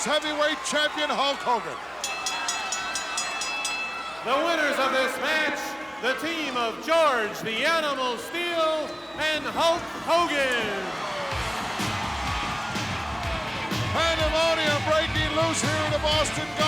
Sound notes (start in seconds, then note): 3.4 bell rings; 11.3 upbeat rock music